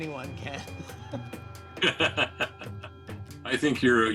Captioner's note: laughing